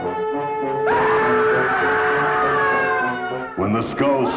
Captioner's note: screams